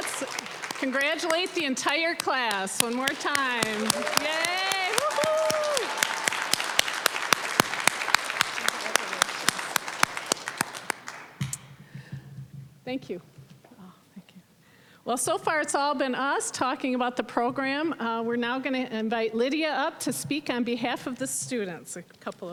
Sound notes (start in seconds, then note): 5.3 applause, cheering; 6.9 applause